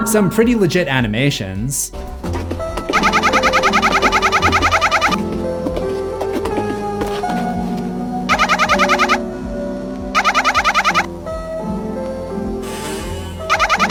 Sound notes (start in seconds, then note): 2.0 my little pony running